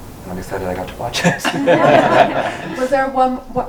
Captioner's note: group laughs